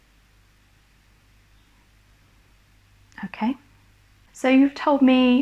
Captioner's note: no response